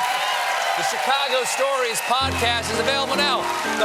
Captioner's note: applause